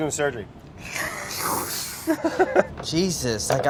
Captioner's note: both slurping